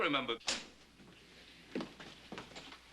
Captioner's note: door opening